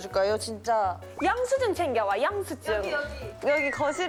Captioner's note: mimicking someone